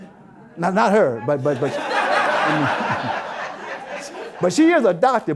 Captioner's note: audience Laughter